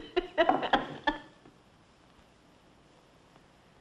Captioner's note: crying